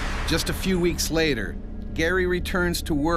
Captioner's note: voiceover